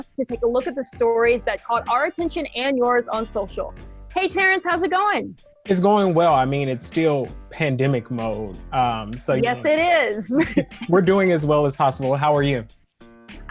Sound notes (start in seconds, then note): 10.2 chuckles